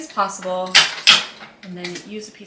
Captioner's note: dispenser clacking